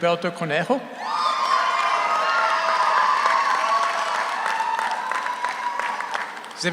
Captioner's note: audience cheers; audience applauds